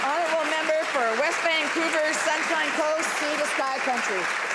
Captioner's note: applause